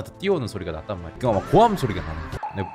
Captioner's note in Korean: 대충 고함소리